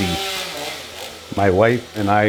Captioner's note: chainsaw buzzes